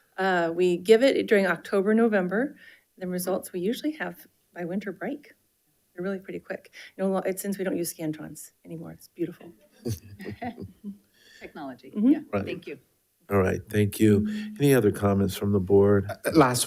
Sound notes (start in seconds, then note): 9.8 member laughs